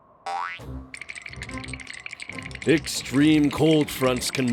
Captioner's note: both shivering